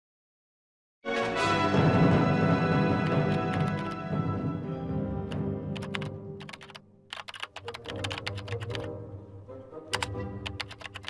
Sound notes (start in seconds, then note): 0.0 keyboard keys clacking; 1.0 dramatic music